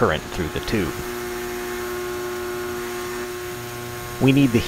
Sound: transformer humming intensifies

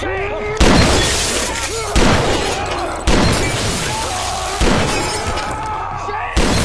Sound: gun Shots

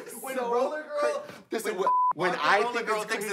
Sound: beep

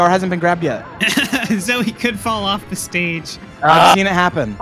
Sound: laughter

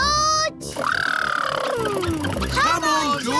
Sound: makes sputtering noises

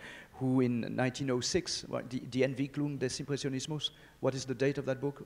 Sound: speaks in foreign language

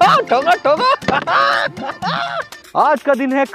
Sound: laughing

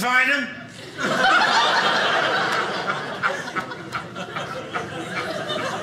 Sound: audience laughing

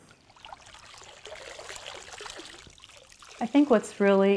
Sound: water splashing

